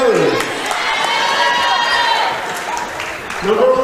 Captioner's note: cheering